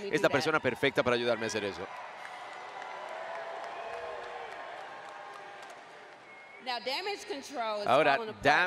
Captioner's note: applause